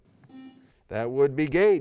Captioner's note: beep